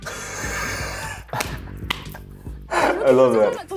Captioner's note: laughing